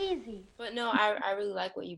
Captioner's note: laughs